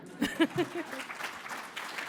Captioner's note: applause